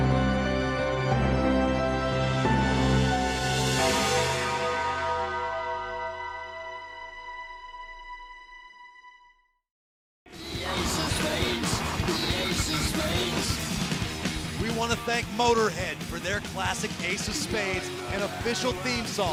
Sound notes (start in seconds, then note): 3.6 bell tolls